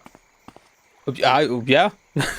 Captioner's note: stammering